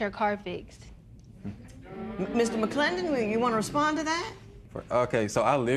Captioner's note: spectators murmur